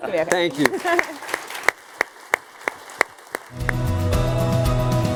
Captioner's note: applause